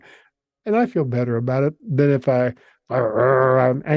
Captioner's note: growls